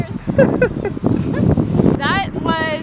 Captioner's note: laughter